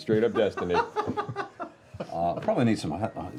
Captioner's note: laughs